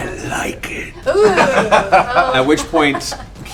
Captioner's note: laughter